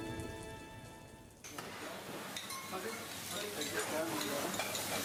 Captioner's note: kitchen sounds